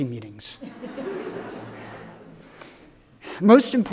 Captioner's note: everyone laughing